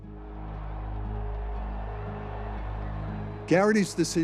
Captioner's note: protesters shouting